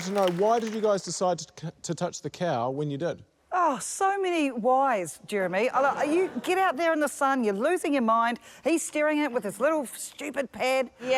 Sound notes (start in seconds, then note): 5.4 laughter